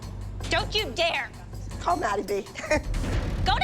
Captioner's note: Abby laughs